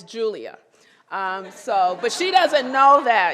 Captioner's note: laughter